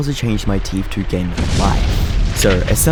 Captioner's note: echo